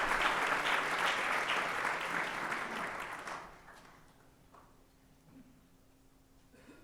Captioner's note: applause